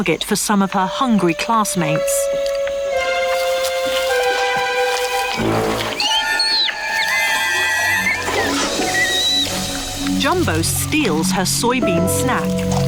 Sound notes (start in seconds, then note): 3.1 mischievous music; 3.1 squealing